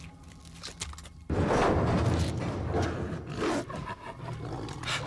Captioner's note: Max growls